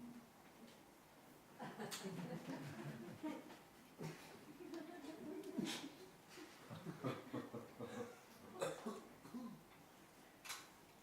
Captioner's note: giggling from audience